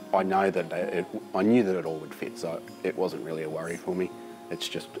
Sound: none

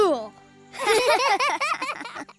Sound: laughing

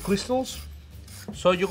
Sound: fork scraping

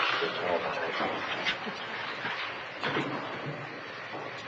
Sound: audience chatter

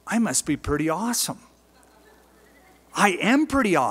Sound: laughter

